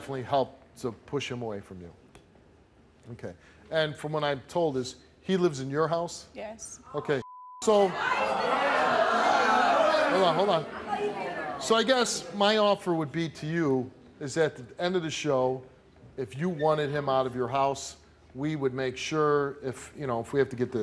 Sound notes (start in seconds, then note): 7.2 beep; 7.8 audience yelling and booing